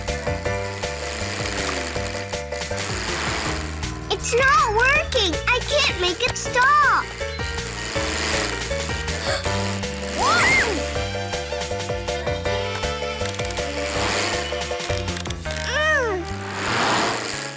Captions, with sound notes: It's not working! I can't make it stop! (gasp) Whoa! (shriek)